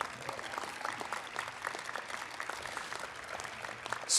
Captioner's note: applause